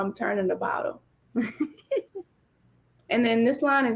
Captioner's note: laughs